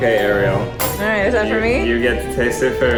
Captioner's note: clank